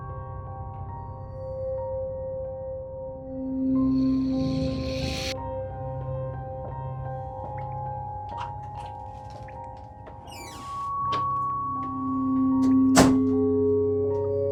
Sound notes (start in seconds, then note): 0.1 eerie music continues; 8.8 pills rattling